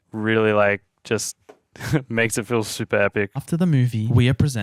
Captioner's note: chuckling